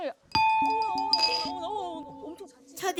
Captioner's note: ding ding ding ding